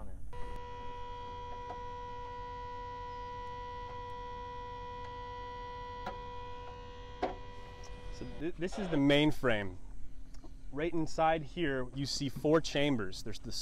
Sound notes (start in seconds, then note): 1.6 machine whirring